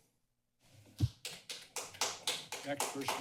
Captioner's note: applause